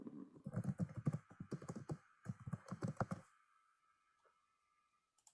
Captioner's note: keyboard clicking